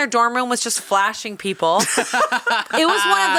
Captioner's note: both laughing